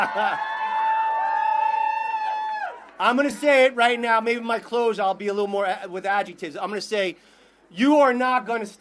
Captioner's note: laughter